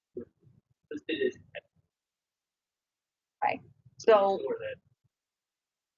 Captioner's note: man speaks through warped and choppy audio